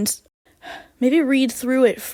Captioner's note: sigh